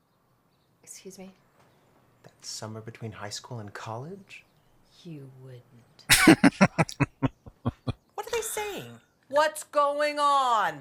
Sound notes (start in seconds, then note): 6.1 laughing